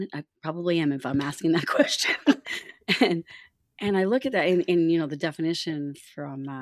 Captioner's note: laughter